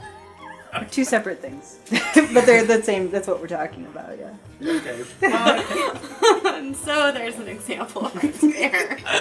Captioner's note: laughter